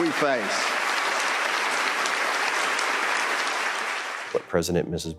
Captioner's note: applause